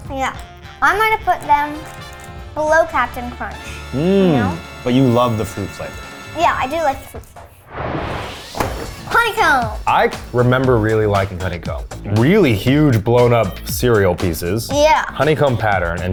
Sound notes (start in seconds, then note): 7.7 animated explosion booming; 8.7 cereal box thudding